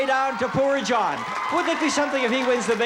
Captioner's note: applause and laughter